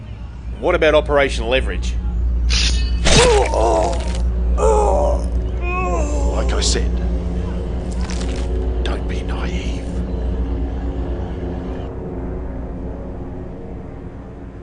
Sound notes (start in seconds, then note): 2.3 metallic whooshing; 5.5 groaning in pain